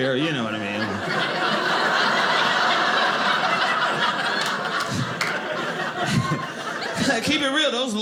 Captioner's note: audience laughing